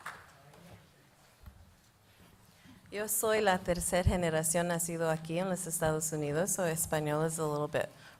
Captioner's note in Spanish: Se habla en un idioma extranjero